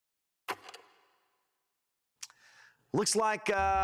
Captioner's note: film reel clicks